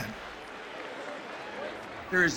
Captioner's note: crowd cheering